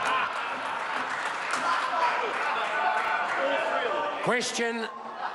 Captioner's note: members laugh